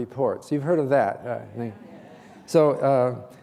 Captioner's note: audience agreeing